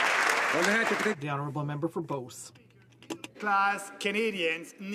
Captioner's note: some Applause